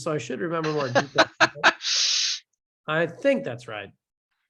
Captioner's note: instructor laughs